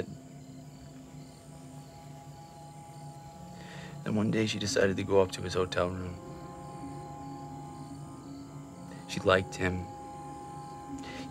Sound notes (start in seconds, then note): 0.2 crickets chirping; 0.2 tense music; 6.3 crickets chirping; 6.3 tense music